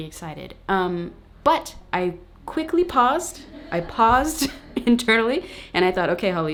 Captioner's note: laughs